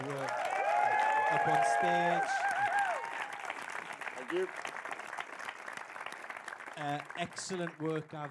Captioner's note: applause